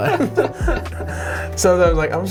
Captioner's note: laughing